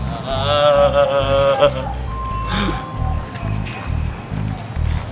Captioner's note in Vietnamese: mếu